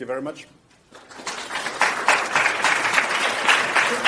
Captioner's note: applause